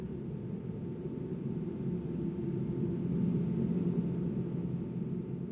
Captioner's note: continuous smooth whooshing